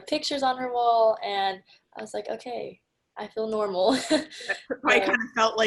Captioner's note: laughs